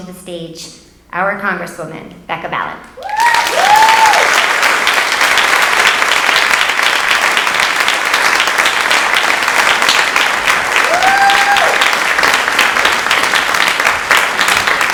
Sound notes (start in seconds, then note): 3.4 audience applauding; 6.8 audience cheering